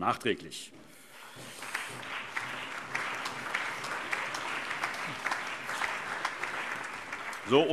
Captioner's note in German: Allgemeiner Beifall